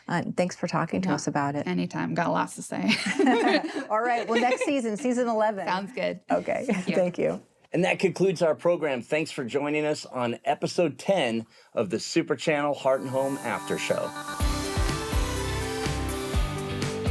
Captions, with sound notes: Thanks for talking to us about. - Yeah, anytime. Got lots to say. (both laughing) - Alright, well next season, season 11. - Sounds good. - Okay. - Thank you. - Thank you. - And that concludes our program. Thanks for joining us on episode 10 of the "Super Channel Heart and Home After Show". (upbeat music)